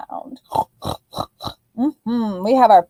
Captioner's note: oinking